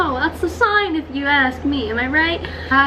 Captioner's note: none